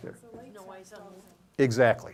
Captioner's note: audience chattering